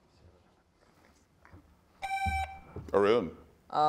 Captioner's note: buzzer beeps